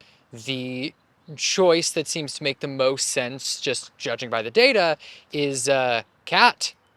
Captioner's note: none